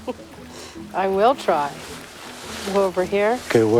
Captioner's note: laughing